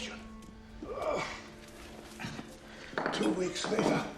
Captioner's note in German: Grunzen